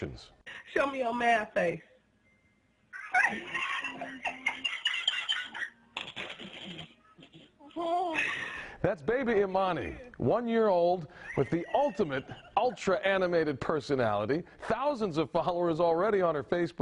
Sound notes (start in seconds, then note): 11.2 laughter